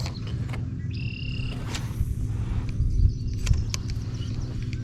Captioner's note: rod whooshing